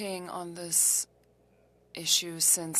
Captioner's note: speaking French